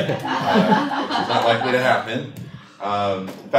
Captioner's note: laughter